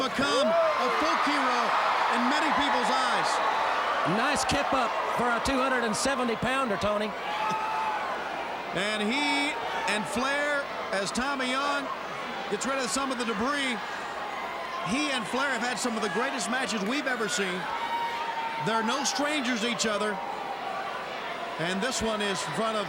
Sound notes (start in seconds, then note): 7.3 crowd cheering